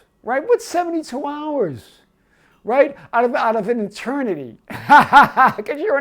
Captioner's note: laughing